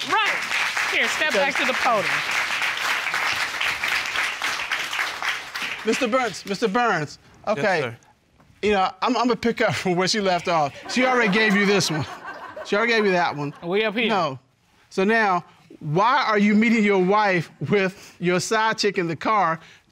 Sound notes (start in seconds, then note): 0.8 audience applauding; 3.0 audience applauding